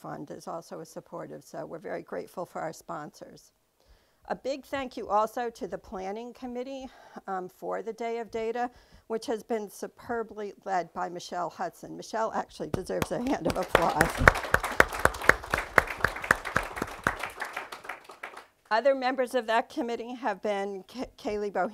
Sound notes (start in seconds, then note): 13.0 applause